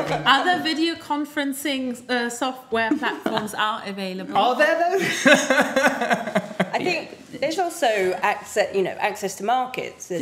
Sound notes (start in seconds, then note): 5.0 chuckling